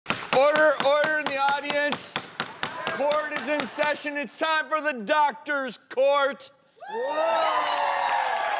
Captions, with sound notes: Order, order in the audience! (hammering) Court is in session! It's time for The Drs Court. (cheering)